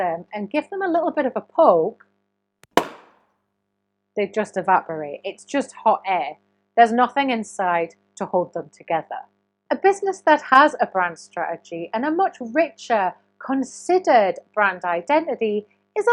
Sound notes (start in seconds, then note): 2.6 balloon popping loudly